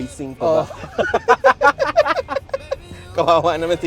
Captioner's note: laughs